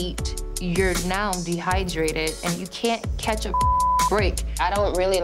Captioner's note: beep